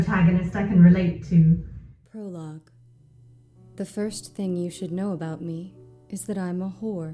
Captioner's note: American accent